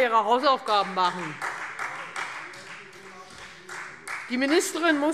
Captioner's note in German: Beifall Freie Demokraten